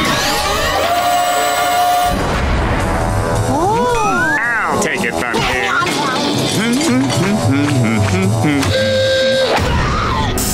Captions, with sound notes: -Oh! -I'll take it from here. [humming] [alarm sounding] [screaming]